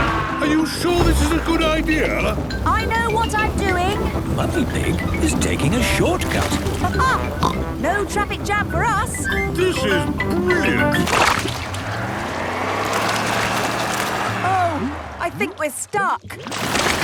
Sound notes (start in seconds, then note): 11.7 sloshing, tires whirring